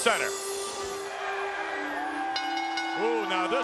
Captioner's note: audience cheers; bell rings